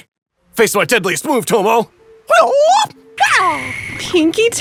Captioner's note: whooping